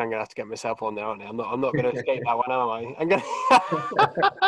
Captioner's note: laughs